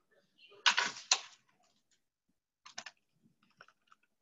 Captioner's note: keys clicking